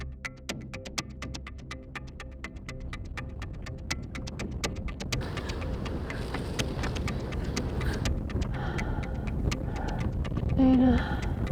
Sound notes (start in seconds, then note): 2.4 ground rumbling; 5.1 wind blowing